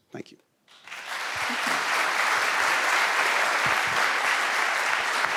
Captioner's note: audience applauding